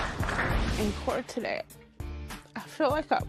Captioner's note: voice breaking